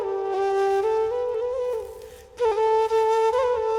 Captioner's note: footsteps